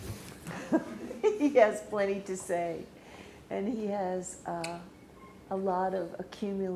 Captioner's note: laughs